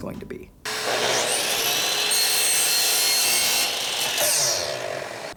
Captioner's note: chainsaw grinds